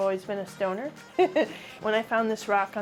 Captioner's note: chuckles